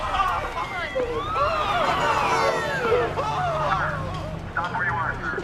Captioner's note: screaming